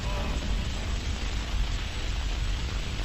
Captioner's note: hiss